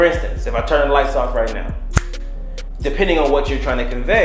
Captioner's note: snaps fingers